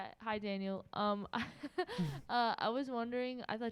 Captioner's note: giggles